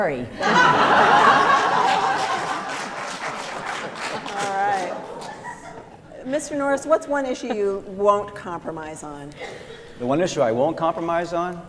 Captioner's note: laughter